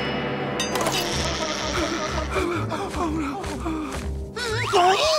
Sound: whimpering

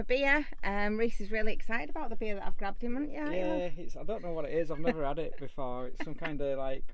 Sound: laughing

